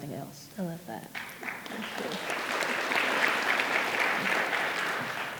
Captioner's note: audience applauding